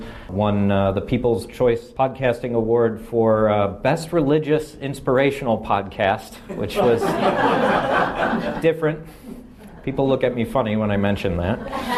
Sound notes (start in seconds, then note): 6.5 laughing